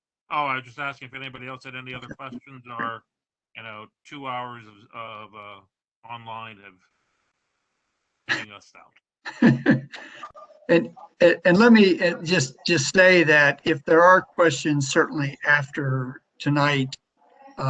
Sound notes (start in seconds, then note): 9.2 laughter